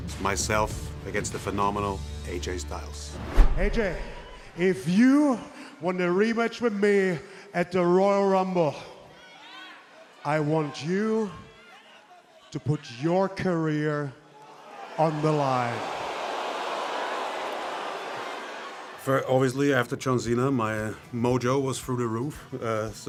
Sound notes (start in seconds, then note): 14.3 crowd boos